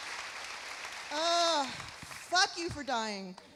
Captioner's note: sighs